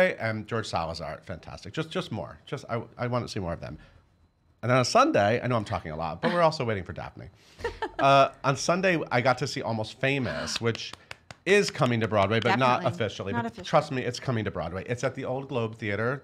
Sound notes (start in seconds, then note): 7.6 laughing; 10.2 gasping; 10.6 clapping